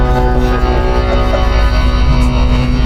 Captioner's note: laughing